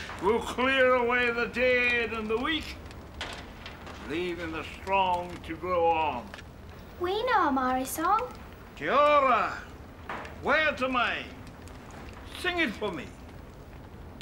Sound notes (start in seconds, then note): 9.2 speaking in foreign language